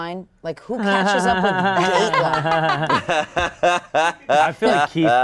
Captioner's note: all laughing